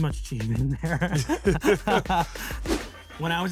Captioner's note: laugh